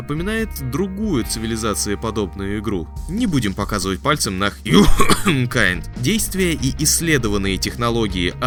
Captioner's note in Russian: кхм!